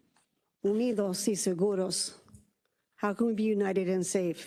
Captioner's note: speaking in Spanish